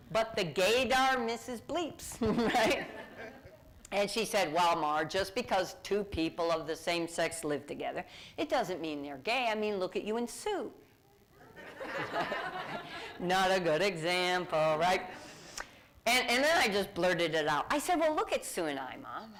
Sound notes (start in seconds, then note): 11.5 laughter